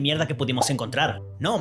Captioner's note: pop!